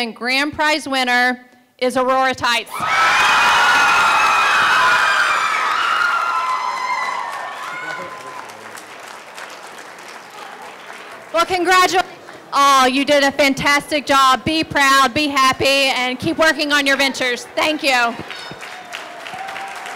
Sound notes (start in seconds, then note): 6.0 crowd cheering